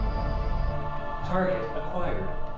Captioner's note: computer voice